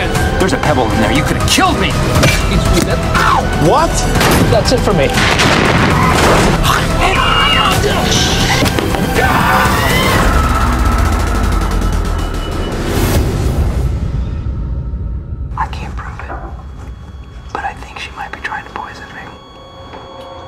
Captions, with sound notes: DWIGHT SCHRUTE There was a pebble in there you could’ve killed me! MICHAEL SCOTT Ow! JIM HALPERT What? [gun shot] OSCAR MARTINEZ That’s it for me. [explosion] [screams] MICHAEL SCARN Shhh! [knocking] [screams] MICHAEL SCOTT I can’t prove it But I think she might be trying to poison me.